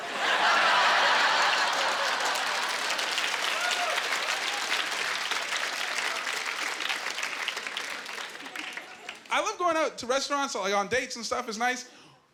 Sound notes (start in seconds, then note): 0.0 laughing; 3.5 applause